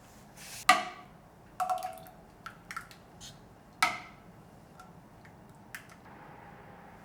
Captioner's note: porridge pouring into bowl; ladle hitting pot